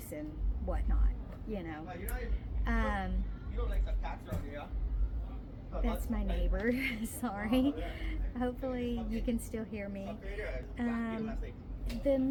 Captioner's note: people talking in the background